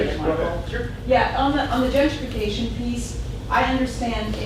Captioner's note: voiceover